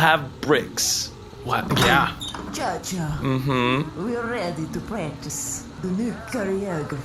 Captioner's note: door opens